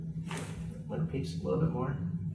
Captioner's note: back cracks